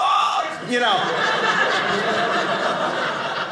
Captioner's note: audience laughing